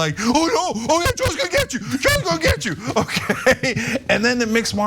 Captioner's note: laugh